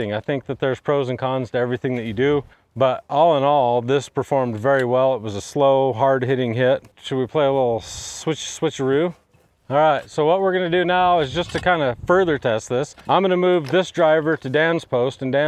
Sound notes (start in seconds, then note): none